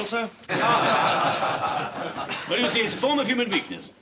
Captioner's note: all Laugh